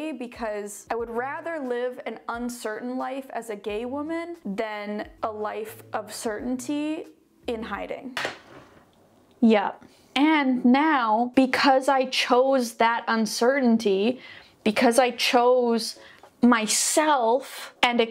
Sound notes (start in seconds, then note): none